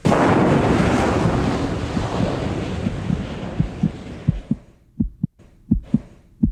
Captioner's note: engine bursting; heartbeat thumping